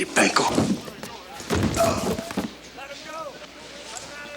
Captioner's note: body thumps; TJ groans